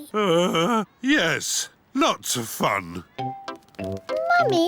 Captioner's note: groans